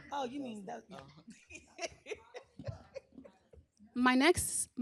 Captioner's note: laughs